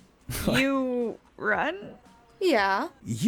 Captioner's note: scoffs